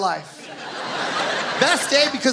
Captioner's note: audience laughs